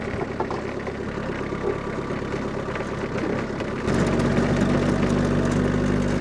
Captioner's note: log thuds; telehandler engine rumbling continues